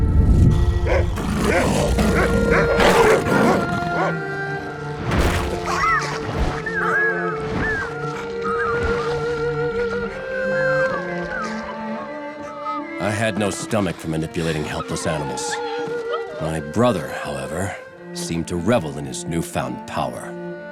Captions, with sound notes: [barking, growling] [whimpering] [whimpering] I had no stomach for manipulating helpless animals. My brother, however, seemed to revel in his newfound power.